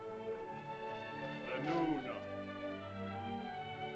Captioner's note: woman speaks in caveman language; man speaks in caveman language; soft music